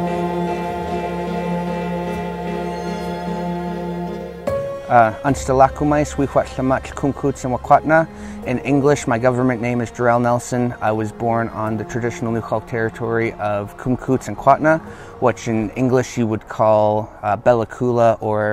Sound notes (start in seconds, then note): 5.3 speaking Native language; 13.6 speaking Native language